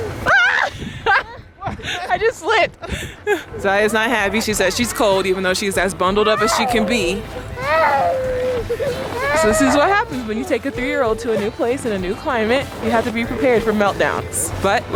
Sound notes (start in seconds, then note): 0.3 screaming; 7.9 yelling